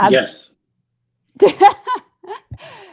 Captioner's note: laughter